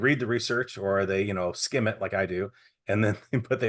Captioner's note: chuckling